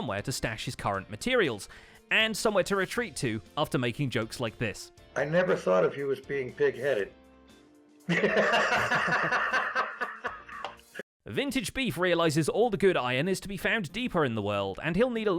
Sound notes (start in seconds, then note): 8.1 chuckles